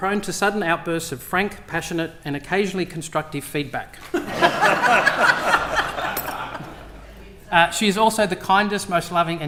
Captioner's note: laughter